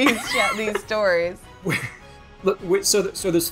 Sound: laughs

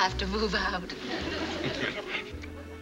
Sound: chuckles

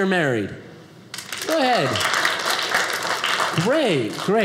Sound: audience applauding

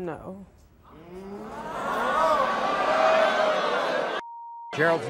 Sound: audience gasps

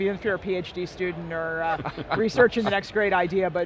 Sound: interviewers chuckling

